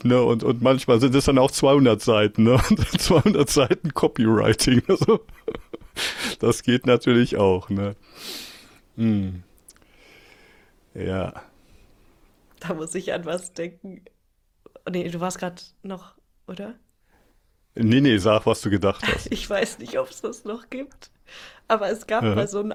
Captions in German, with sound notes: ne? Und manchmal sind es dann auch 200 Seiten, ne? [gelächter] 200 Seiten Copywriting. Also, das geht [schnauben] natürlich auch, ne? M ja, da muss ich an was denken. Nee, du warst gerade noch oder? Nee, nee, sag was du gedacht hast. Ich weiß nicht, ob es das noch gibt, aber es gab bei so